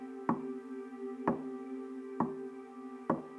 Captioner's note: tapping